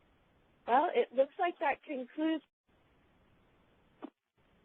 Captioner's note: audio cuts out